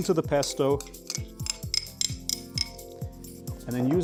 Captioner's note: spoon clicking on bowl